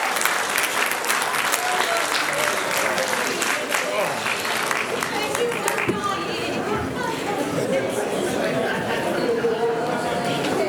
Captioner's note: applause